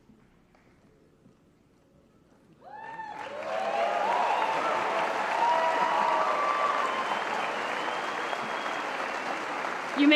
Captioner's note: applause and Cheers